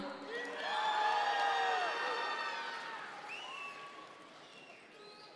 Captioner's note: audience members cheer